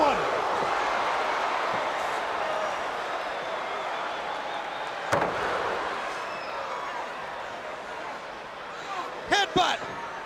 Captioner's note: crowd cheering